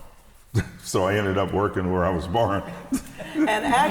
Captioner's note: laughs